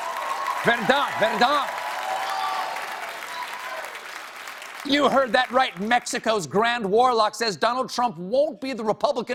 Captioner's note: cheers and applause